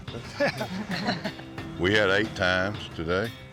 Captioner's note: laughter